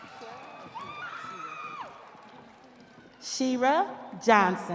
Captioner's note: audience applauding; audience cheering